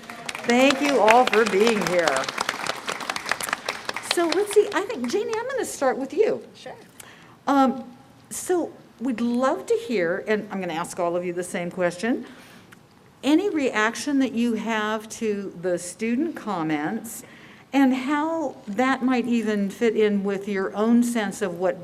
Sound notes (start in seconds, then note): 3.3 applause